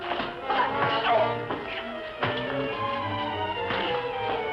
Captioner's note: grunting